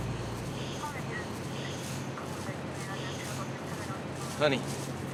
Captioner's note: police radio chattering